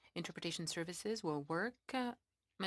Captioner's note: speaking French